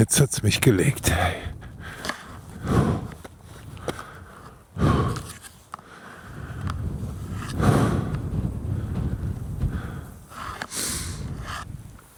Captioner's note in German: schnauben; seufzt